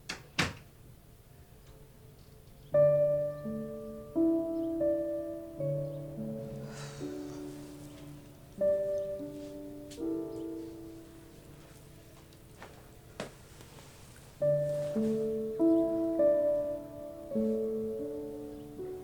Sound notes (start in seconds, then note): 0.0 door clicking shut; 2.1 birds chirping; 2.7 sentimental music; 6.5 Diane sighing; 14.1 sentimental music; 14.4 birds chirping